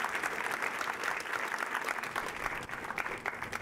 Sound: applause

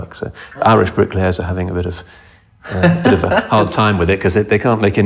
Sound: laughs

